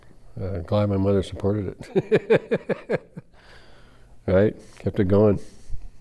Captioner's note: laughs